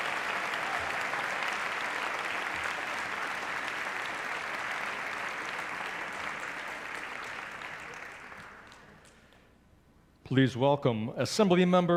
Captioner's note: applause